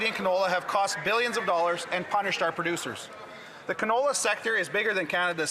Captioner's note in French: voix de l'interprète